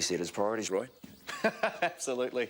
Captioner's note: laughing